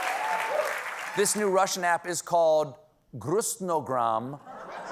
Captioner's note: applause